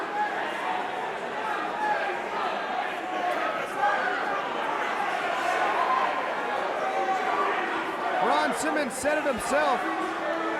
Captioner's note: crowd cheering